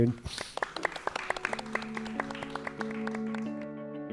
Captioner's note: all applauds